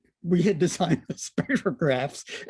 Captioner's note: laughter